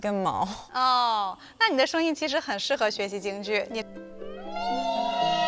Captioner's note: speaking foreign language